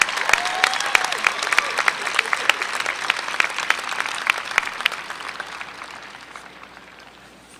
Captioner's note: applause